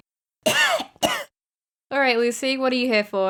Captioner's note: couuugh